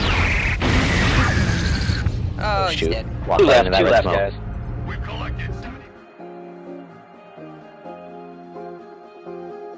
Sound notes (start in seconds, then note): 0.0 boosh!